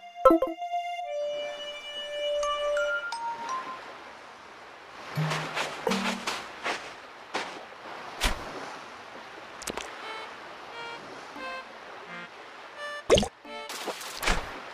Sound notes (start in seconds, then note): 9.3 water sound